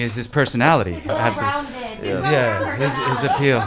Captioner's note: cast laughing